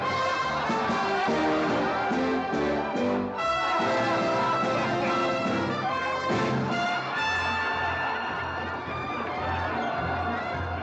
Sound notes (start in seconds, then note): 0.0 triumphant music; 3.1 crowd cheering; 3.1 triumphant music; 10.6 crowd cheering